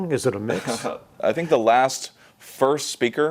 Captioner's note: laughs